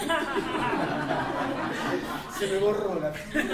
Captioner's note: laughter